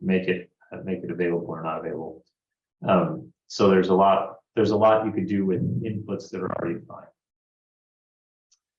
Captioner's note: distorted audio